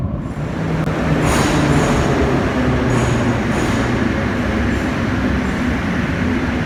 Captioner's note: arrival of train at the station